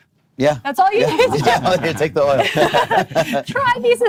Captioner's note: laughing